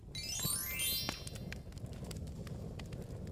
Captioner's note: chiming